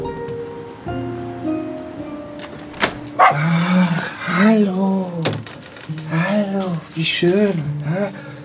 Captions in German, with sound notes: (Freudiges Bellen) Ach, hallo. Hallo, wie schön, hm?